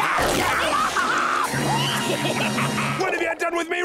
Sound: laughing

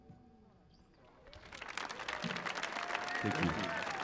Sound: audience applauding

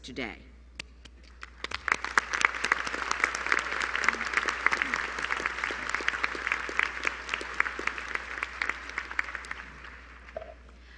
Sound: applause

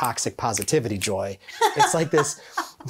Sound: laughing joyously

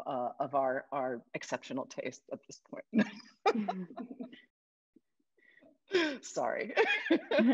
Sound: laughs; laughs

